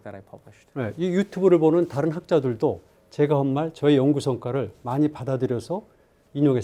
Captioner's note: speaking in Korean